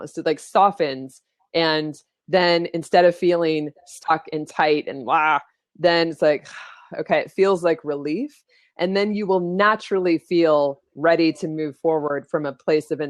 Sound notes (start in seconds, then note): 6.8 exhales